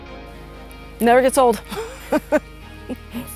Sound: laugh

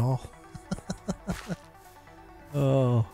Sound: laughs

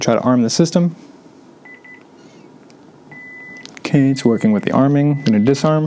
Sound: beeping

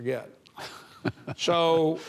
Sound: chuckling

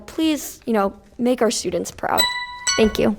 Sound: bell rings

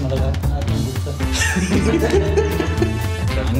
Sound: uncontrollable laughter

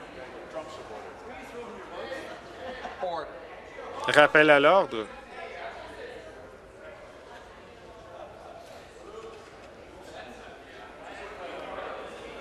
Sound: conversation din

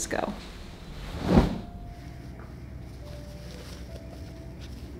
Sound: fabric fwoomps to the floor

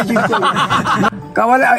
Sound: laughter

